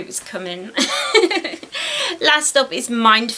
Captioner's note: giggles